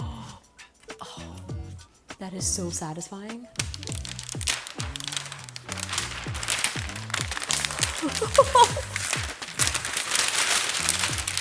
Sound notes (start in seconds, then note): 3.5 plastic crinkling; 7.6 chuckling